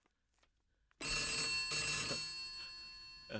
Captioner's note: telephone Ringing